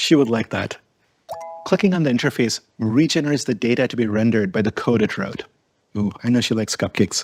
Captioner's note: pop up sound